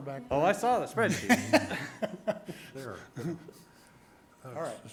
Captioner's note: board members laughing